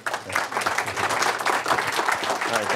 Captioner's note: applause